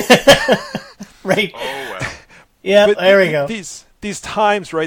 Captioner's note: laughing